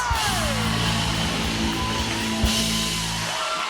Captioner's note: cheers and applause